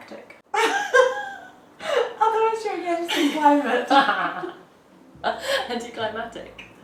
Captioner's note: laughs